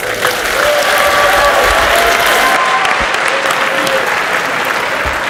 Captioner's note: audience cheers and applauds